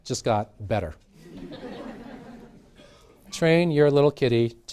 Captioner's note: laughter